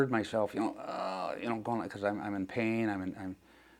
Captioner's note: grunting